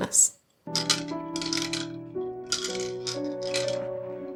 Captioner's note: balls rattling